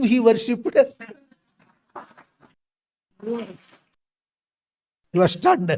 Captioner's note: claps